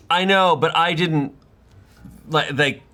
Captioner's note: none